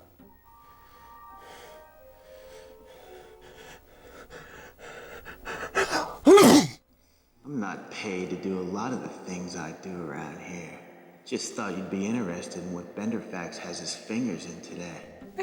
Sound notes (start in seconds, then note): 0.0 distant sleepy piano; 0.4 Andrew breathing heavily; 5.7 sneezes